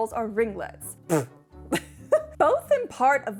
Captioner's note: spits hair out of mouth and laughs